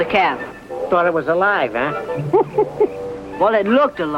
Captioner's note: giggles